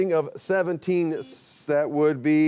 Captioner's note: buzzer beeps